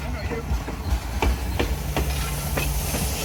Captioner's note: clickety clack